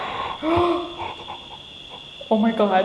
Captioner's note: gasps